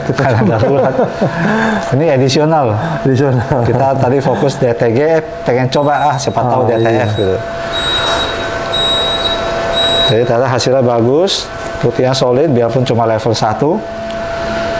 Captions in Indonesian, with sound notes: - (tertawa kecil), ini additional, kita tadi fokus DTG, pingin coba ah, siapa tahu DTF. - Additional.... (suara beep) - (tertawa kecil), ini additional, kita tadi fokus DTG, pingin coba ah, siapa tahu DTF. - Additional.... (suara beep) Detailnya hasilnya bagus, putihnya solid, biarpun cuma level 1.... (suara beep) Detailnya hasilnya bagus, putihnya solid, biarpun cuma level 1....